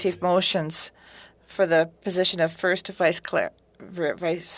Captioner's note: speaking FRENCH